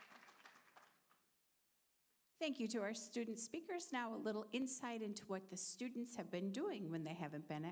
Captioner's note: applause